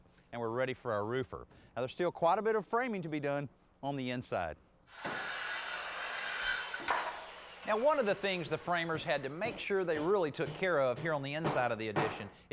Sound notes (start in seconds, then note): 4.9 saw whirring